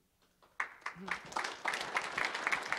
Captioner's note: applause